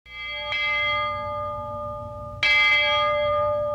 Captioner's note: bell clanging